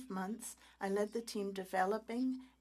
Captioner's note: speaking French